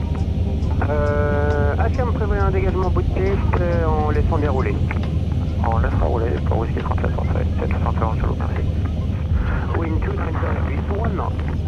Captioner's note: radio chatter